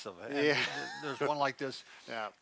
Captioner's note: chuckles